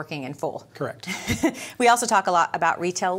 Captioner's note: chuckling